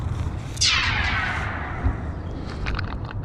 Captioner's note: laser firing